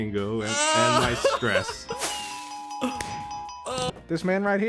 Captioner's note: exaggerated sobbing; winning chime